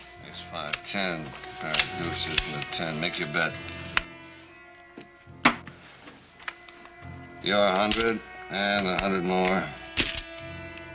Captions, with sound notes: - That's five, ten, pair of deuces and a ten. Make your bet. [ thud ] Your hundred and a hundred more. [ Clank ]